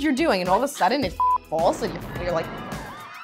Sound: beep

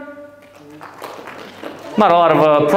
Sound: few people clap

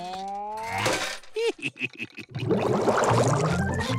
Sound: laughing

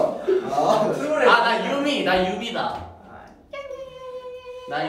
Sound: imitates the character sound

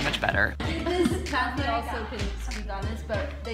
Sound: chatter

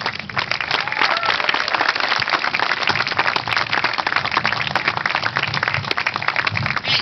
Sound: applause

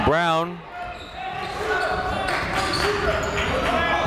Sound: chatter

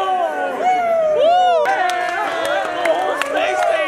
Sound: cheers and clapping

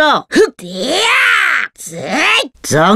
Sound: scream

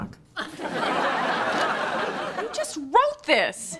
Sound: background laughter

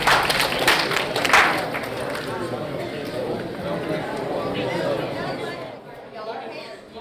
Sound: crowd clapping; crowd chattering

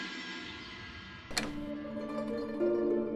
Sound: door opens

